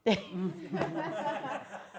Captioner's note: laughing